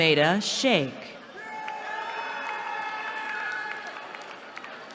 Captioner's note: cheering